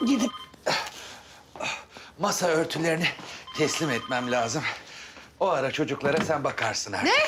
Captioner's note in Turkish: Nefes sesi